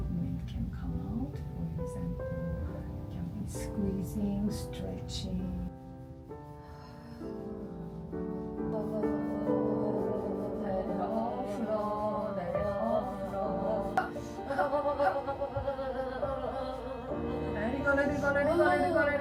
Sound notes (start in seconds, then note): 5.9 gentle piano music; 6.9 humming; 13.9 humming